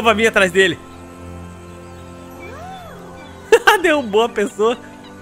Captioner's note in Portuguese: risos